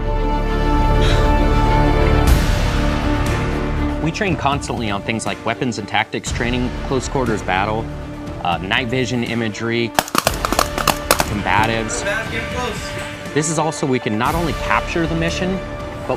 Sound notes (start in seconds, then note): 0.1 dramatic music; 9.9 guns firing